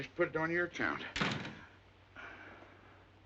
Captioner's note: door slams shut